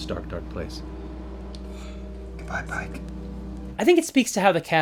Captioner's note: whispering